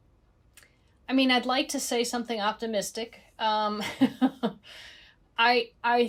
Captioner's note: chuckles